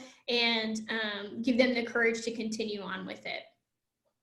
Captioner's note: none